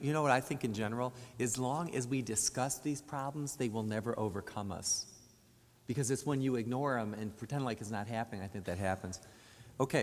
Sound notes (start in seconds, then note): none